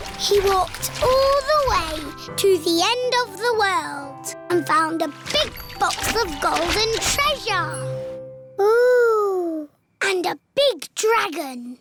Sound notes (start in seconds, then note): none